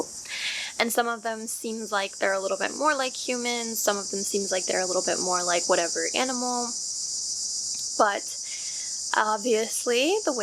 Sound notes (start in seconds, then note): 0.6 cicada sounds return